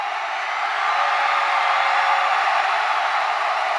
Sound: crowd cheering

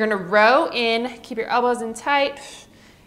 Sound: exhales

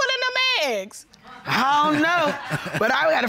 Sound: laughs

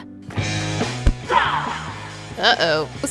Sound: creature yells

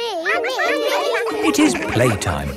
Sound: all laughing

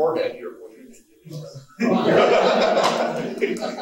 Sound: someone speaking off mic; laughing

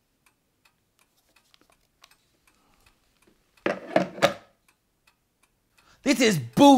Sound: clock ticking

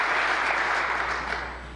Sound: applause

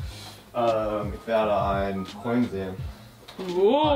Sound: speaking in foreign language

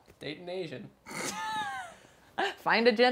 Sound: all laughing

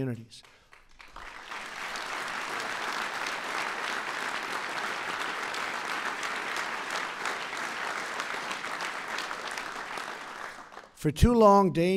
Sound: applause

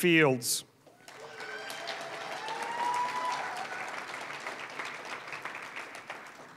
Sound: applause, cheering; applause

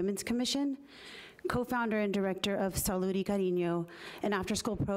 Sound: speaking foreign language

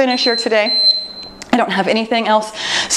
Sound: timer beeps

